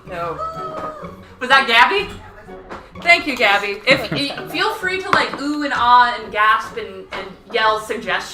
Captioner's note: "wooo!" in background